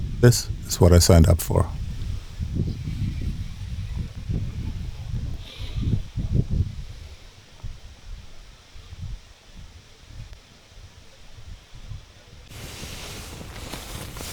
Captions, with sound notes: This is what I signed up for. [wind blowing]